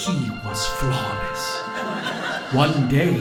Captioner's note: audience laughing